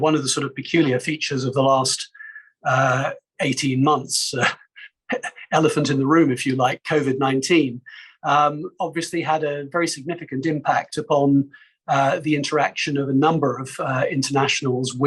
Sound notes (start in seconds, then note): 4.3 laughing